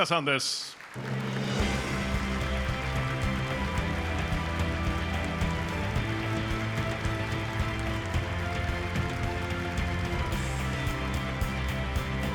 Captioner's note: applause